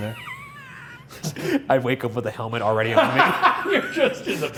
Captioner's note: laughing; laughs